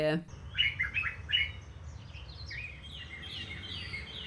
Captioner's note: birdsong